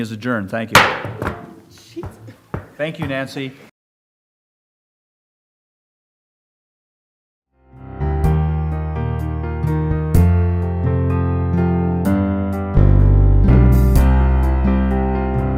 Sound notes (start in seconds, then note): 0.7 gavel